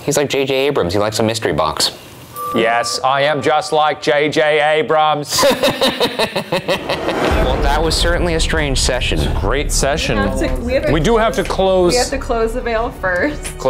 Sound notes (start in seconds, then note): 5.3 laughs